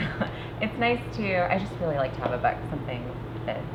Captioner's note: laughs